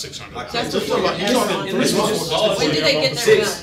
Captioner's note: all chattering